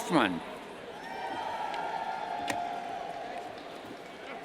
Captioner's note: cheers